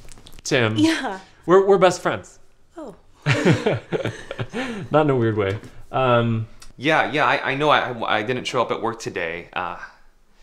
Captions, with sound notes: That's.... Tim. Yeah We're best friends. [laughing] Not in a weird way. Ummmmm Yeah, I know I didn't show up at work today. Uh..